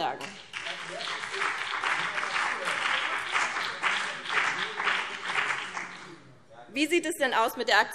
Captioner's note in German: Beifall BÜNDNIS 90/DIE GRÜNEN